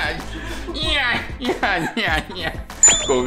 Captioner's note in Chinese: 持續變態笑聲